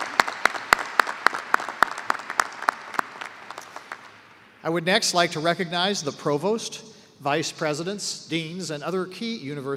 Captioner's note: applause